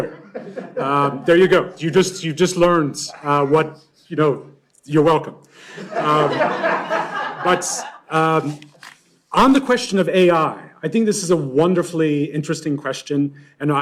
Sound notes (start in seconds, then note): 0.0 laughter; 5.7 laughter